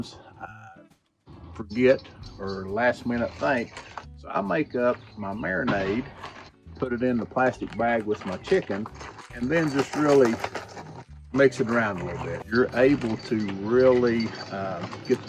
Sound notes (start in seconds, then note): 10.3 plastic bag crinkling